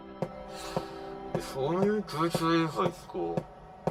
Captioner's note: sigh